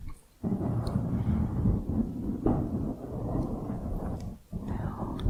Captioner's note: mic scratching